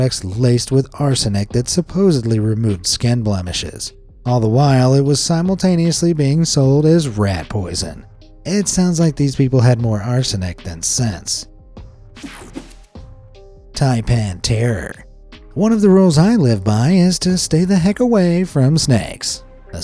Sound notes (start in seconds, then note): 12.1 graphic whooshes; 12.2 mellow music